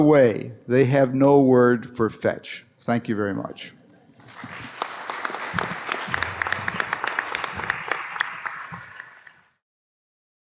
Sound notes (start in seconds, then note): 4.1 applause